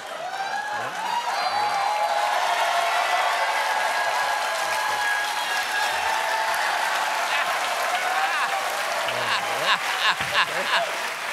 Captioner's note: cheers and applause; laughter